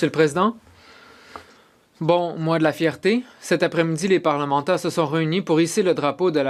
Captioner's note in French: voix de l'interprète